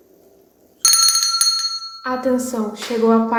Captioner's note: bell rings